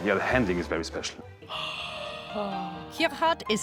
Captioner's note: gasping